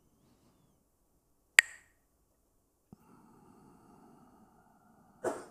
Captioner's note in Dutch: klakt met stokjes